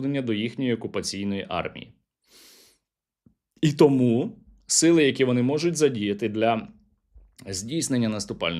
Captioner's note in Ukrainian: сопіння